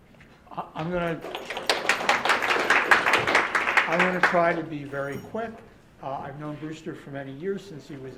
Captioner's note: applause